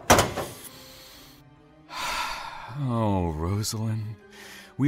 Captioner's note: deep, satisfied breath